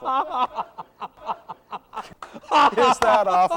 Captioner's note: laughs socialistly